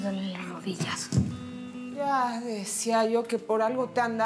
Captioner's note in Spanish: en voz baja